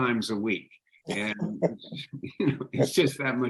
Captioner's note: laughing